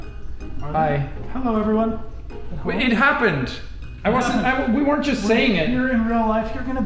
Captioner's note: sweetly